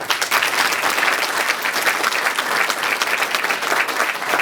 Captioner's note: applause